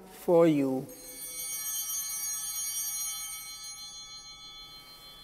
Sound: chimes ringing

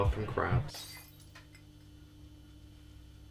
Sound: glass smashing

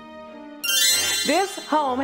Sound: magical tinkling

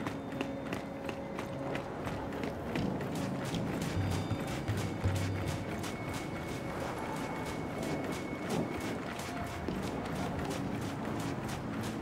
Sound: footsteps

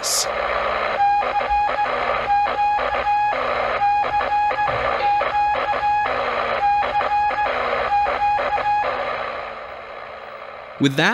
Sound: CQ CQ CQ called in Morse code

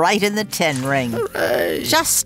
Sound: groans

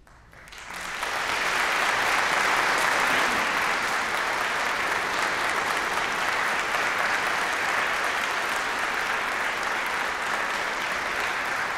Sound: applause

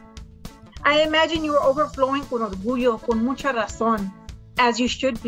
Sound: speaks in foreign language

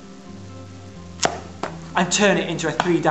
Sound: popping noise

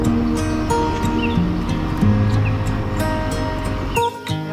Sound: birds chirping

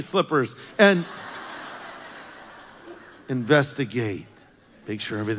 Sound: congregation laughs

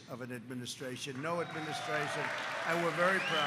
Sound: applause

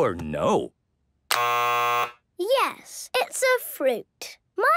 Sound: buzzes

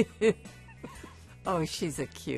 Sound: both laughing

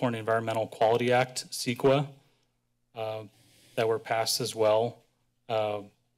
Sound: none

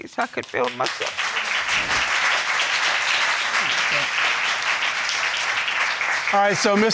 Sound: applause

